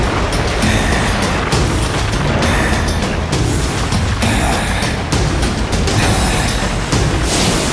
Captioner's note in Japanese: うなり声